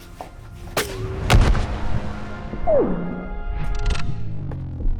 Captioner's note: gunfire echoing